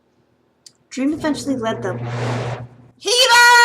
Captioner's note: wooosh